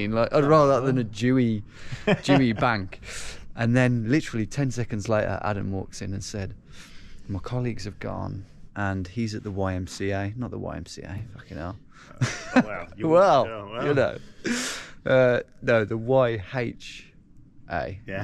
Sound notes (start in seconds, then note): 12.1 laughs